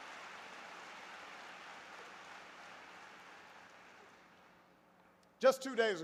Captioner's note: applause